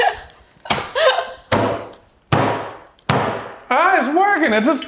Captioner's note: laughs; wood bangs